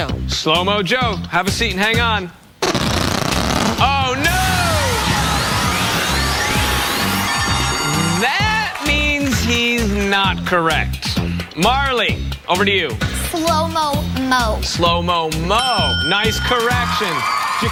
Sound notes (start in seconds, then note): 2.6 fart sound; 8.3 audience laughs